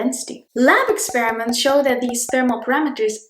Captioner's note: bubble pops; bubbles pop